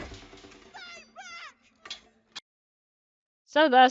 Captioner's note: yelling